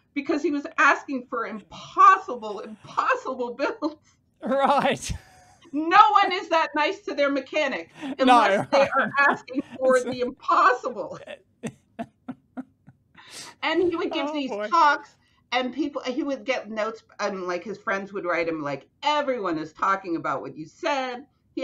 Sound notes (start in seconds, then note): 7.9 chuckling; 11.6 chuckling